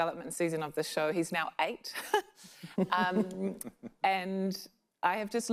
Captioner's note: chuckles